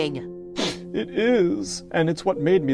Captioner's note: sniffs